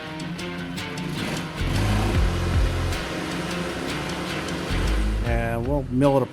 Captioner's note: saw mill grinding